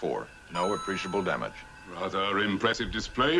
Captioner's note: Mario coin jingle